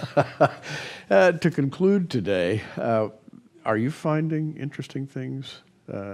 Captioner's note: laughter